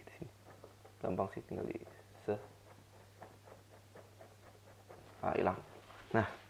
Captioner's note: scrub scrub